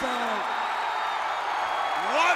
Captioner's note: crowd cheering